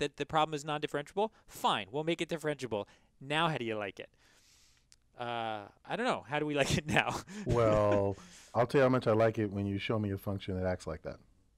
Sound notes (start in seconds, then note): 6.6 laugh